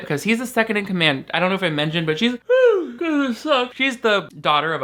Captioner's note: yawns